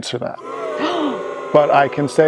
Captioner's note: crowd booing